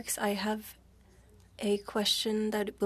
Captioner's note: speaking French